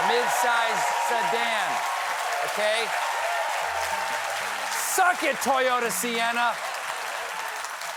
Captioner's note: cheers and applause